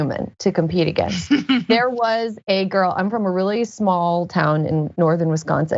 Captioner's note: laugh